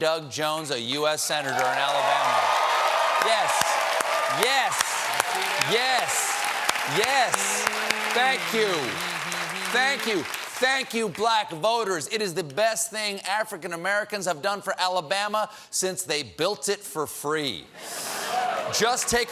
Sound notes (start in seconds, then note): 2.2 cheers and applause